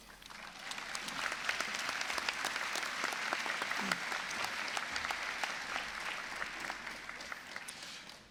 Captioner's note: applause